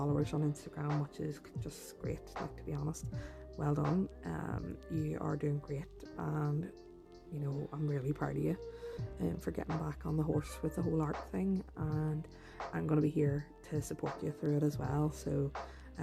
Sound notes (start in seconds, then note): none